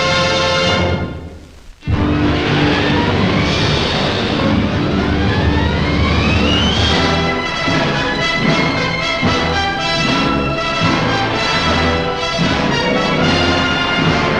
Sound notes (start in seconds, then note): 2.5 dramatic orchestral music; 2.5 waves crashing